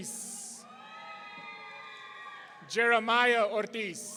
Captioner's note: audience cheering